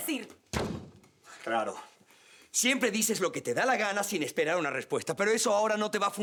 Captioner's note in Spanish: Portazo